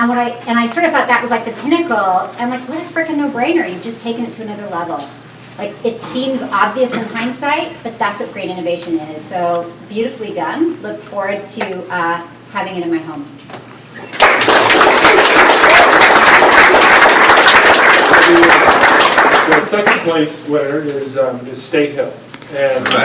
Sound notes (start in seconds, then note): 14.0 audience applauds